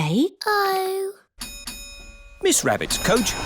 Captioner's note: coach bell dings